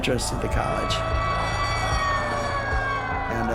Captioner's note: siren blaring